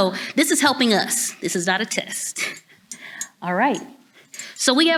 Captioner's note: chuckles